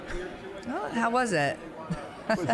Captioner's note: laughing